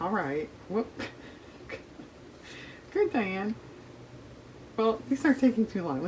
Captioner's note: laughs